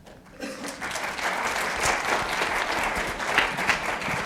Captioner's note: audience applauding